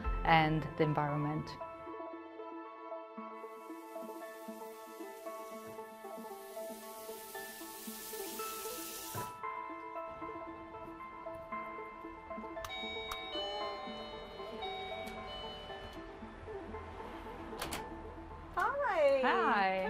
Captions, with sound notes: and the environment. [MUSIC, DOOR BELL RINGING] Hi. Hi!